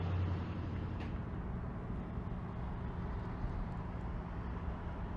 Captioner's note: car rumbling; traffic humming